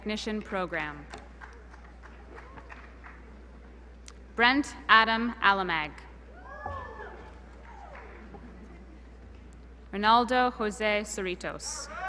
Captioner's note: applause